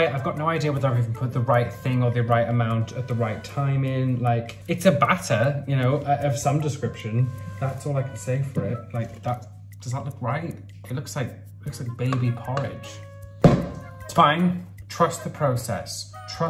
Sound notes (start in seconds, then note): 13.4 bowl banging